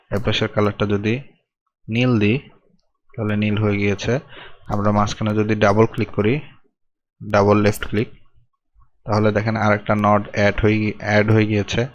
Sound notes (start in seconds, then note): 5.9 left click